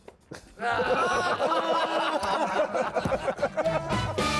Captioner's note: laughter; upbeat instrumental music